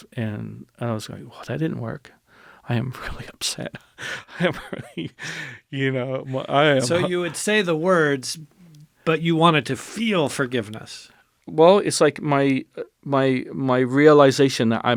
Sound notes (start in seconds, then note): 6.7 laughs